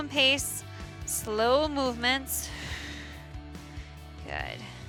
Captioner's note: exhales